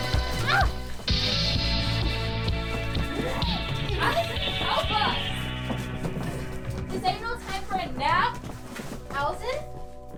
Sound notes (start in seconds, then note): 0.6 Krypto and Lucky grunting